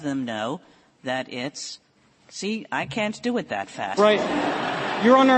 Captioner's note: laughter